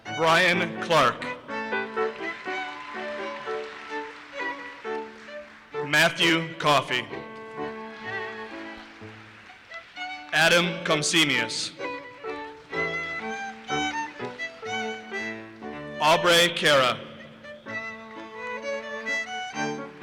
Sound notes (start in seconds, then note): 1.5 audience applauses; 17.6 audience applauses